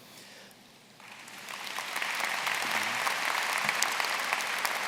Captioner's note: applause